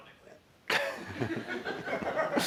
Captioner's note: laughter